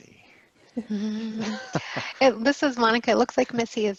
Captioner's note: laughter